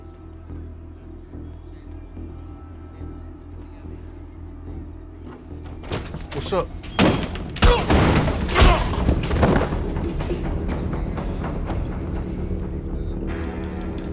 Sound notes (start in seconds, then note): 0.6 tense music; 5.7 door slams; 7.0 punch; 7.4 kick; 9.3 thud; 10.3 tense music